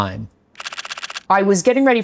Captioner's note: camera shutter clicks